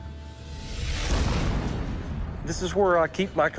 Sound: cannon banging

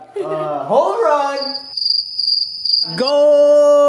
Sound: cricket sound

